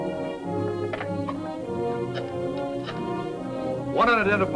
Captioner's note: phone clatters